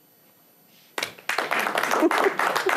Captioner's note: applause